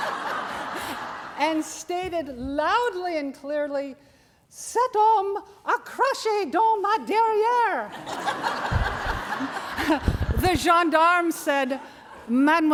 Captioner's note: french